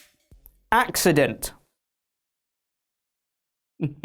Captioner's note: evil laugh